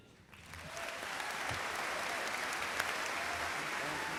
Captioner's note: audience applauds